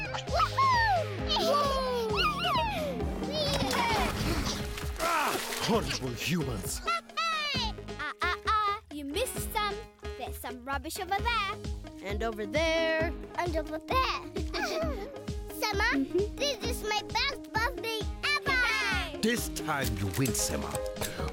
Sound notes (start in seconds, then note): 1.8 laughter; 14.5 giggling